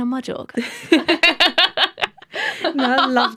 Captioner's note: laughter